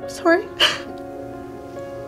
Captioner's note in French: reniflements